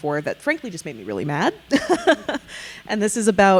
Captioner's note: chuckling